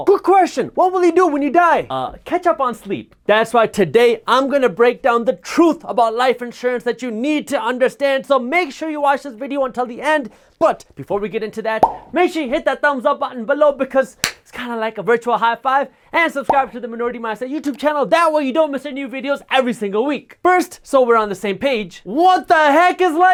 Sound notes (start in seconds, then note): 14.2 clap